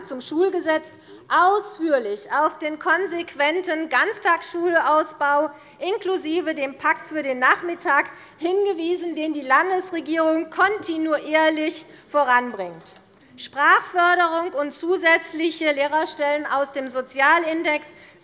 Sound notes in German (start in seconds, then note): none